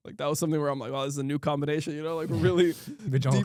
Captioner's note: laughs